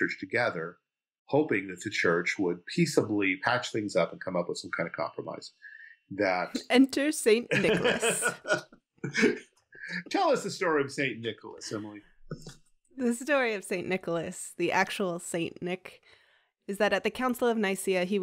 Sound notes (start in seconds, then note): 7.4 laughing